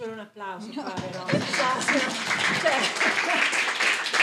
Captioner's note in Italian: Applauso